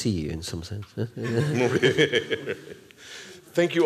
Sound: laughter

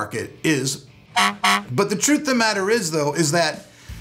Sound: honks

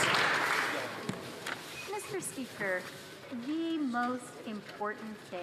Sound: some Applause

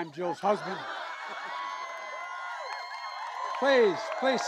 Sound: laughter and applause

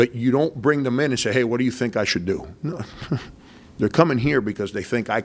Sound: chuckles

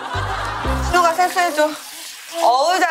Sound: splash

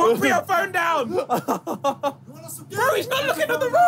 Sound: laughing

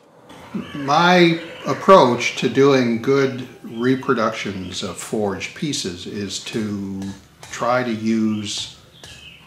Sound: sound of hammering tool shaping hot wrought iron

